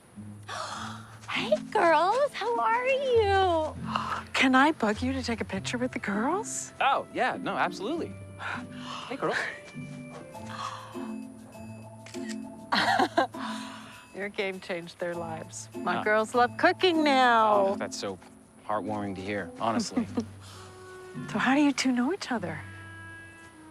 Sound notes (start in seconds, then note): 0.5 gasps; 12.0 camera shutter clicking; 12.7 chuckles